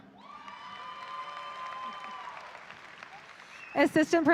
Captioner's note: audience applauding